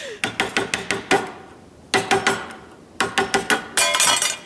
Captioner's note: both laughing; tapping resumes